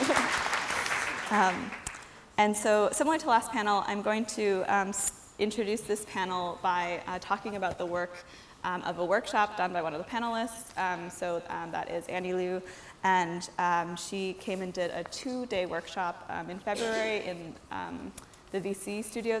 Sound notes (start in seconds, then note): 0.0 applause